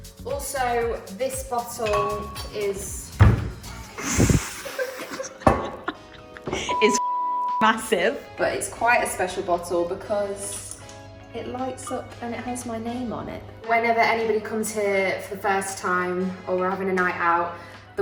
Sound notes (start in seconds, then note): 2.8 bangs; 4.0 laughing